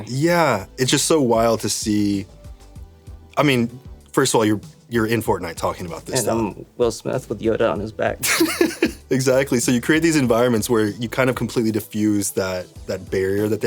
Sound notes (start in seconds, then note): 8.2 laughing